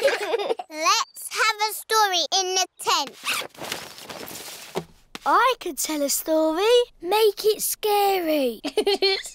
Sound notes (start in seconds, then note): 8.6 giggling